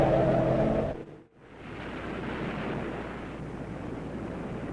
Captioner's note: eerie haunting music; wind blowing; waves crashing